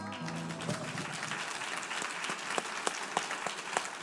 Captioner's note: audience applauds